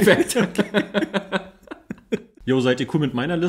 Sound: laughs

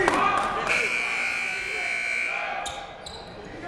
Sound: buzzer

